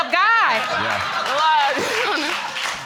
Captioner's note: audience applauding